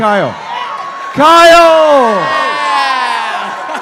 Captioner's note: shouting; audience cheering